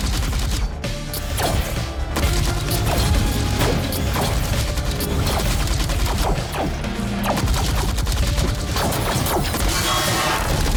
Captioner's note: beams firing